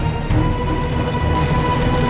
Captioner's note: fast footsteps, train chugging; fuse burning